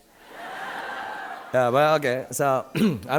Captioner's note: audience laughing